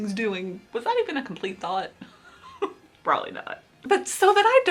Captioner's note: laughs